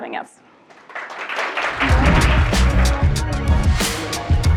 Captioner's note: audience applauds